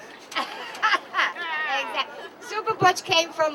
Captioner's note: laughs